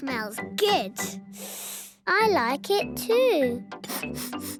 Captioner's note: sniffing; sniffs